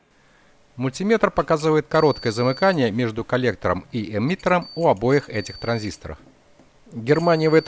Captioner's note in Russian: звучит сигнал мультиметра